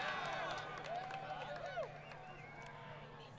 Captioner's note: crowd Cheering & Applause